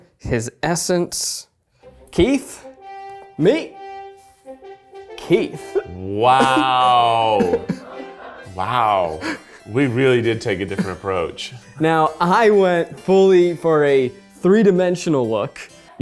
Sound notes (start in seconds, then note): 2.4 triumphant music; 6.3 chuckles